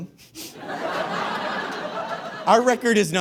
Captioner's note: audience laughs heartily